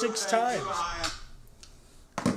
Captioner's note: tv turns off